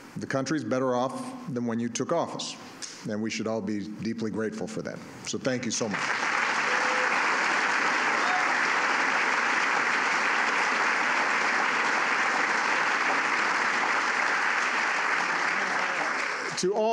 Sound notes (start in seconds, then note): 7.5 applause